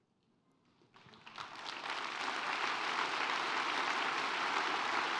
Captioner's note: audience applauds